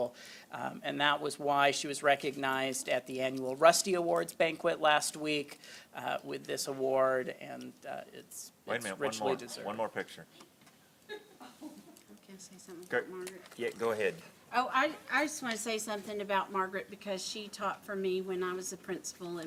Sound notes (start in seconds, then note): 13.0 laughter